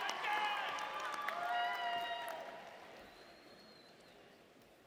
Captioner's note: audience members cheering